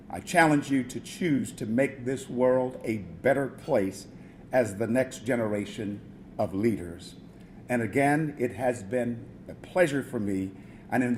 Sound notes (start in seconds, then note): none